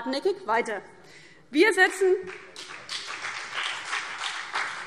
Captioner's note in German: Beifall CDU und BÜNDNIS 90/DIE GRÜNEN